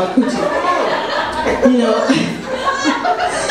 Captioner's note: audience laughs